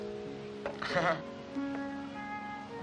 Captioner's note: chuckling